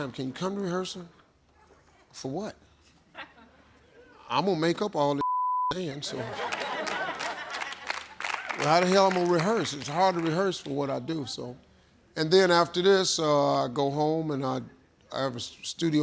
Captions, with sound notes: They used to ask me all the time. Can you come to rehearsal? For what? I'm gonna make up all this (beep) and so. (audience clapping) Well, how the hell I'm gonna rehearse. It's hard to rehearse for what I do so. And then after this I go home and I,